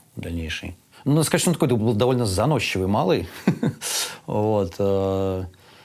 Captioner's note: laughs